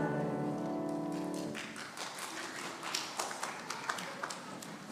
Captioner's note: congregation applauds